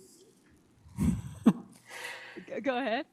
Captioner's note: laughs